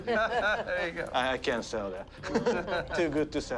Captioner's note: everyone laughs